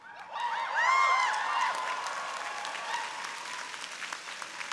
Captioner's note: audience cheering